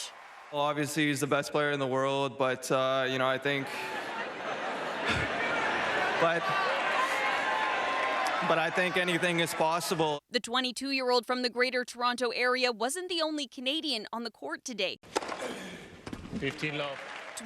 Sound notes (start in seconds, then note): 10.4 laughter